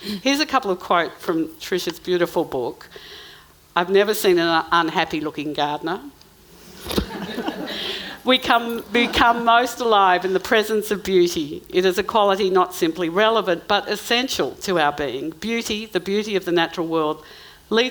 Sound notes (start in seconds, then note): 6.8 audience laughing